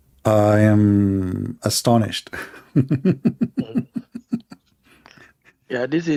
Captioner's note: laughter